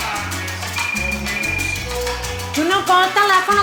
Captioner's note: phone ringing